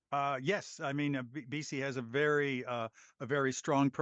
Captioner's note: speaking French